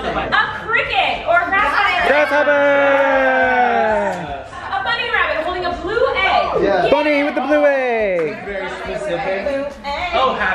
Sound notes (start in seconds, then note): 1.8 group cheers